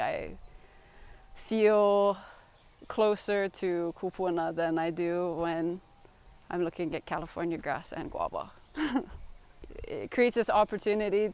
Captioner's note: laughs